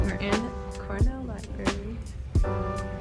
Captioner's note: quietly